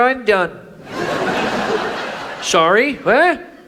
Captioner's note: audience laughs